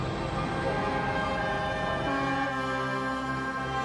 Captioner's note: multiple boat horns